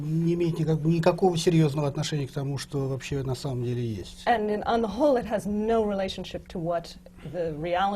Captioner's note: foreign language not transcribed